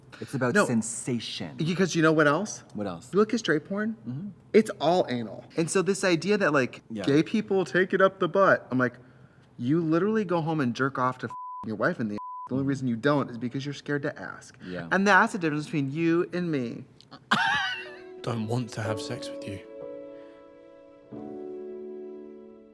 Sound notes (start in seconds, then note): 11.3 beep; 17.1 Katya laughs; 19.5 gentle music